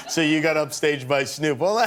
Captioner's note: laughter